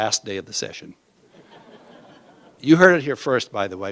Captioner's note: laughter